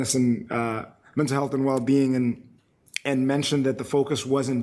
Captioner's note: none